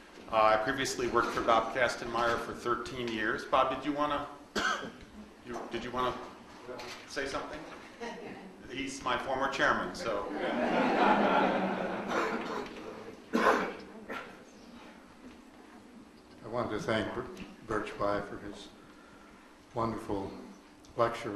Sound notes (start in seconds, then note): 8.0 woman laughs; 10.2 audience laughs